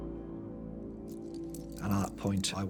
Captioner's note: handcuffs clicking